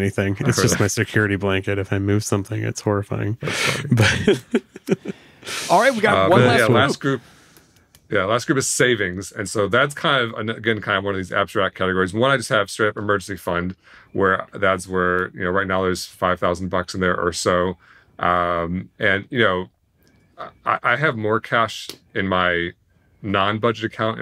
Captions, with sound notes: It's just my security blanket. If I move something, it's horrifying. - That's funny. - But. (laughs) - All right, we got one last one group - Yeah. Last group. - Yeah, last group is savings. And so that's kind of, again, kind of one of these abstract categories. One, I just have straight emergency fund where, that's where, you know, right now there's 5,000 bucks in there or so, and you know, I have more cash in my non-budget account